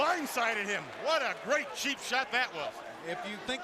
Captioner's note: crowd cheering